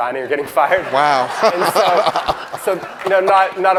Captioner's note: audience laughs